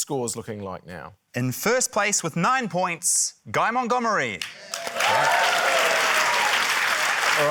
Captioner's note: cheering, applause